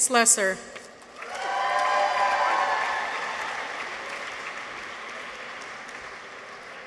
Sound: audience applauds; people cheer

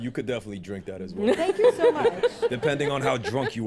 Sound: laughter

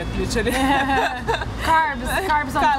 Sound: giggling

